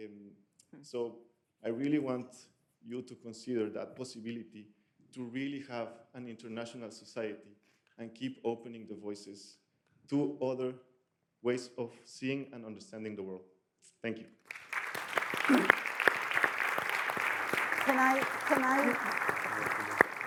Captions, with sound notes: So I really want you to consider that possibility to really have an international society and keep opening the voices to other ways of seeing and understanding the world. Thank you. (audience applauds) - Can I... Can I..